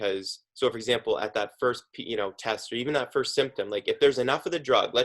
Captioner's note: murmurs